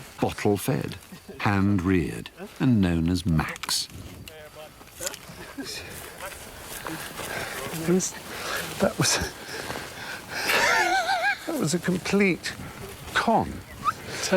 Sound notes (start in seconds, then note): 10.1 laughs